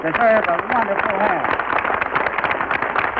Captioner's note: applause